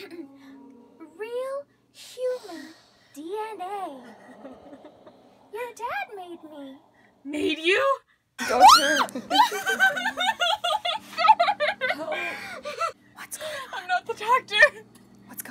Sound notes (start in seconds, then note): 8.4 screaming; 11.2 sobbing